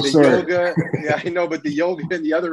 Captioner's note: chuckles